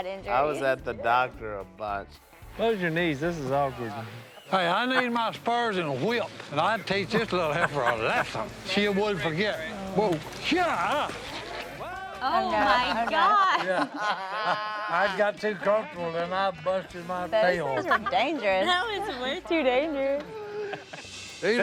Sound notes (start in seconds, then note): 12.2 family laughs